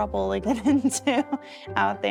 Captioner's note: giggling